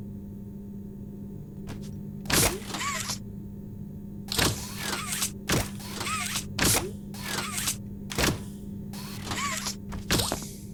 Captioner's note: zipper